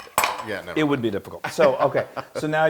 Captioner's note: laugh